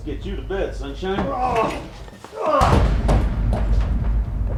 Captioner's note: henchman groans